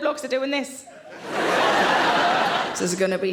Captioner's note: audience laughing